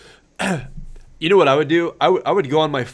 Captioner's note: clears throat